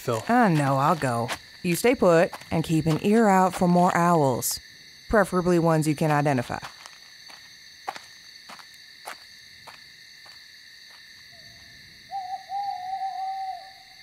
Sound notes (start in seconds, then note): 5.7 footsteps lead away; 12.0 owl hoot